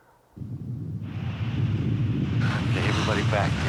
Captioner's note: geyser rumbling